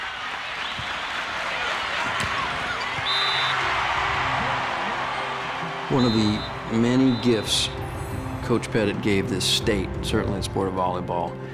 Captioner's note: applause; crowd cheering